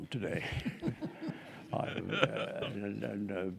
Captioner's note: group laughing